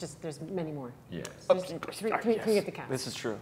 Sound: mumbling

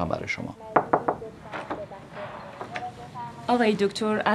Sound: knocking

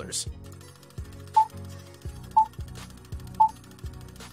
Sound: beeping

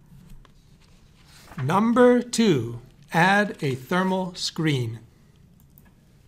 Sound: voiceover

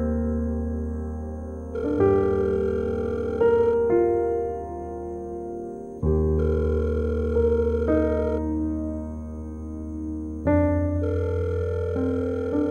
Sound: cell phone ringing

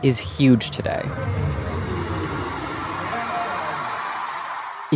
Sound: crowd cheering

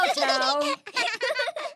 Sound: giggles

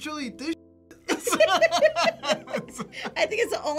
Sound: both laugh

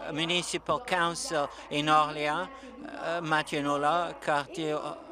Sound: speaking French

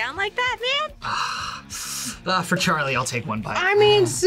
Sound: sighs

